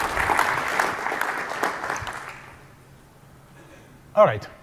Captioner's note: applause